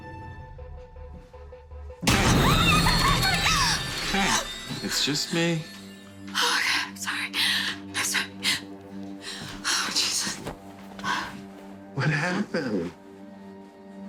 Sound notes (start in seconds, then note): 2.3 screaming